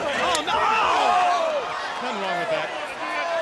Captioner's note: face slaps